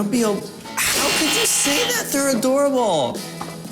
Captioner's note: buzzing